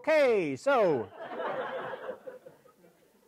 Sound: laugh

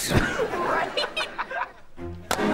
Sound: laughing

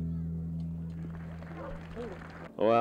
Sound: crowd clapping

